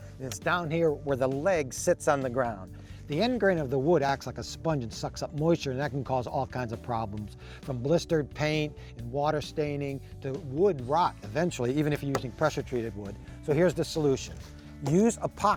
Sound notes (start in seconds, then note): none